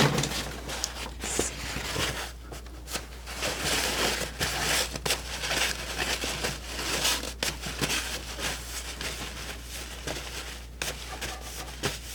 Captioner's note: scratching